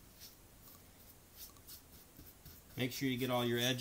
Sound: brushing sounds

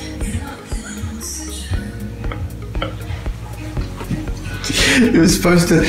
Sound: laughing

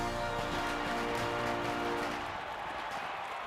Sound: crowd cheering and applauding

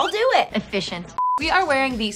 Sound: beep

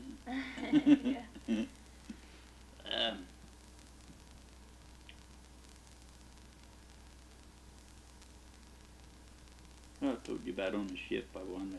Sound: both laugh

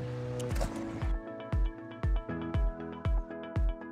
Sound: splash

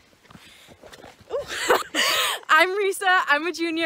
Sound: laughing

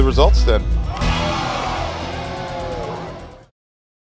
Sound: audience gasping

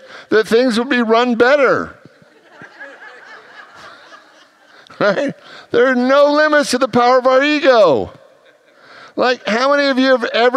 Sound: congregants laugh

